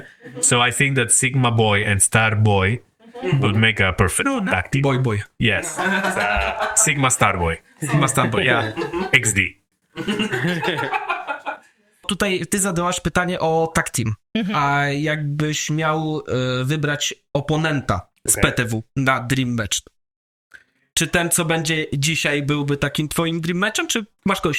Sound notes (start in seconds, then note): 5.5 śmiech; 9.9 laughs